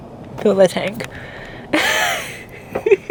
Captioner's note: laugh